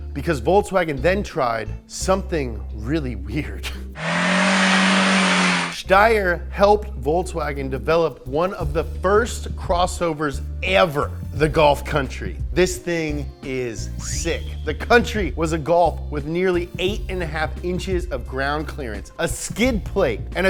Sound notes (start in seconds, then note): 3.9 engine revving; 13.7 electric ring